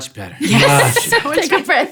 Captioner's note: laughing